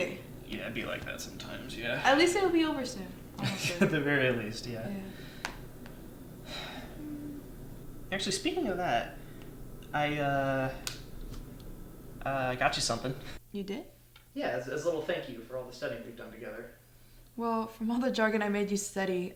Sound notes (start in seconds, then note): 3.4 chuckles